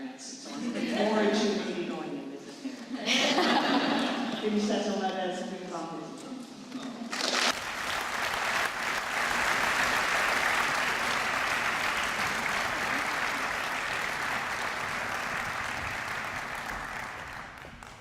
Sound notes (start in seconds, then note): 3.9 speaking french; 6.9 applause